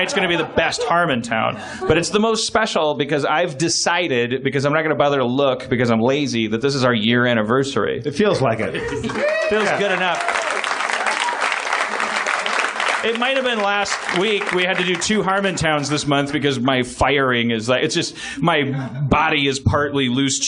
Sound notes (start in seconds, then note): 8.9 cheers